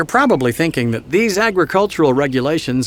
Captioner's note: voiceover